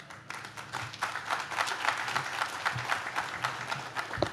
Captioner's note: audience claps